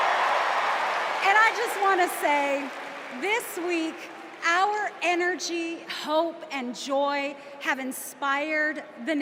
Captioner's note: cheers and applause